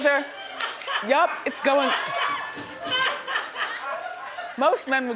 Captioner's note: audience laughing